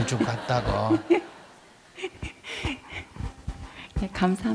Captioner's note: audience Laughter; questioner Laughter